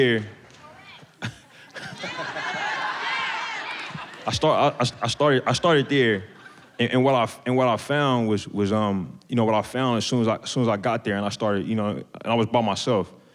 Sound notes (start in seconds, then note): 1.1 chuckling; 1.8 audience members shouting